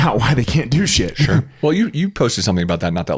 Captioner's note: laughs